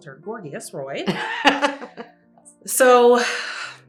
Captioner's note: laughs